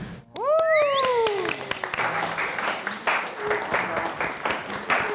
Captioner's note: applause